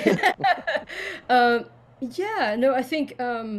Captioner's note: laughs